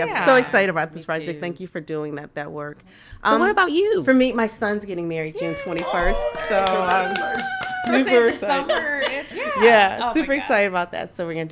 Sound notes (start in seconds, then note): 9.2 podcaster laughing